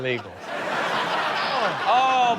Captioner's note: audience laughing